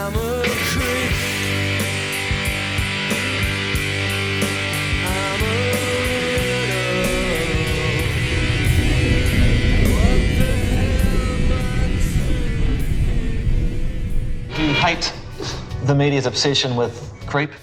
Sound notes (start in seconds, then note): 4.5 soundbite of archived recording